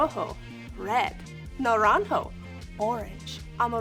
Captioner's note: speaking in Spanish